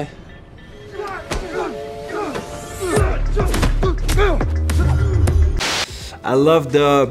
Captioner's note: all exclaim; upbeat music